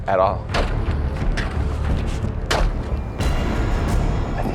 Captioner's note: ice breaking